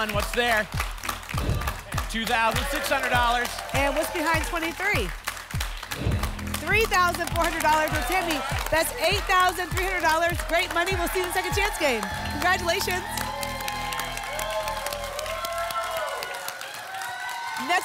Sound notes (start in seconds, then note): 1.4 whoosh; 5.9 whoosh; 13.8 applause and cheering